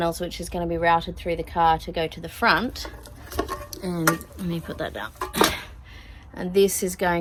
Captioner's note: clattering and thudding